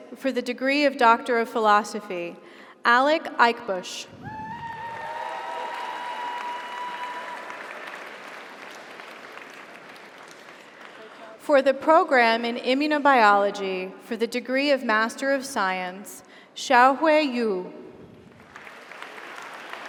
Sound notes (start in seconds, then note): 4.4 audience cheers; 4.7 audience applauds